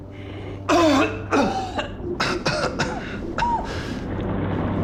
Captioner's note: Rico coughing violently; tense music; water gurgling